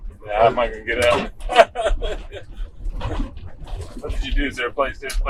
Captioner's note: host laughs